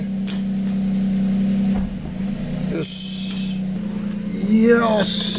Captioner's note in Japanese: エンジン音